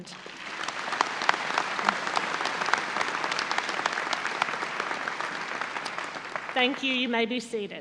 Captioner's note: audience applause